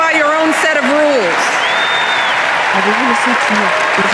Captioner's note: cheering